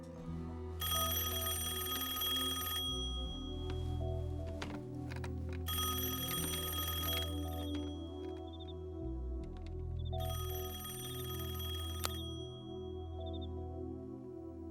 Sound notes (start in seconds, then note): 0.8 rings; 5.6 rings; 10.2 rings